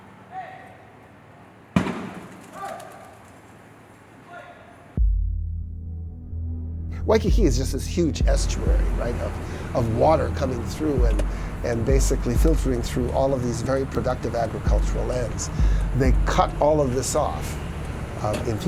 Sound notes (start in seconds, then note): 0.3 yelling; 1.8 thudding; 2.6 yelling